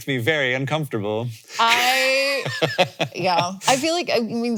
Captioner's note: Hank laughing